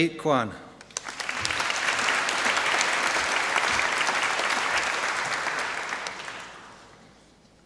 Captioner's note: applause